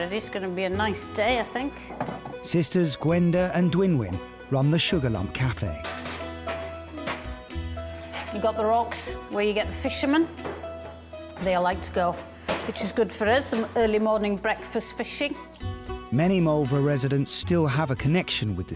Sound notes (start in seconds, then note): 1.8 jugs thudding; 5.4 cutlery clattering